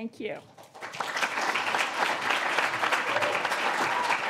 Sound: audience claps

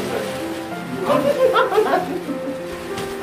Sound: laughter comes from somewhere haha

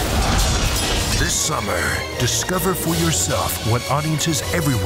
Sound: voiceover

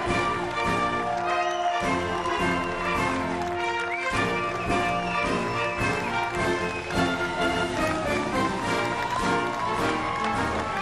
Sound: applause

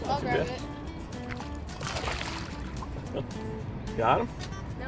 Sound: water splashing

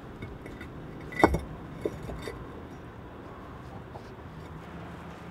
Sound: cinder block thuds

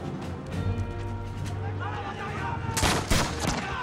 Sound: yelling

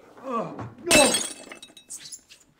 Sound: SFX Glass shattering

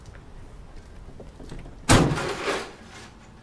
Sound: trunk closes

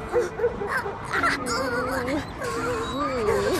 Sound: sobbing

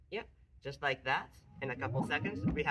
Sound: speaker turning on

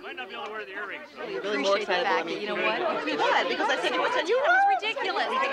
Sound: women chattering

